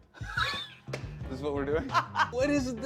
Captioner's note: laughs; laughs